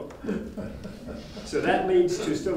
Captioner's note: audience member laughing